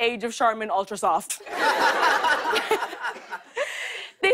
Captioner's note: laughter